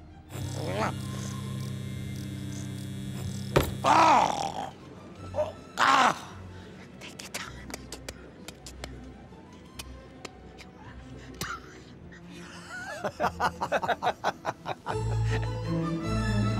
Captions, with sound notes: [ELECTRICITY BUZZING] Oh! Ah! Take your time! Take your time! Take your time! Take your time! [LAUGHTER] [INSTRUMENTAL MUSIC PLAYING]